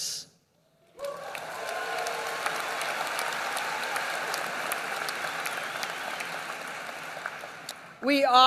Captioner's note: applause